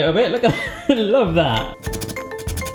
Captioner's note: laughs